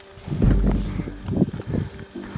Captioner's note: heavy breathing